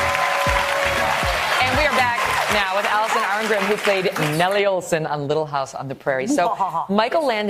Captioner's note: applause